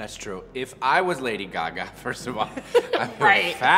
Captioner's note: chuckles